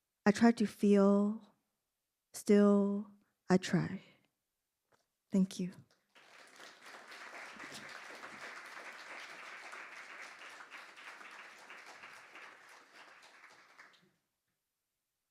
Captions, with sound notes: I try to feel, still I try. Thank you. (audience applauding)